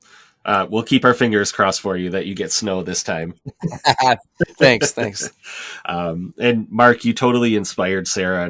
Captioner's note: laugher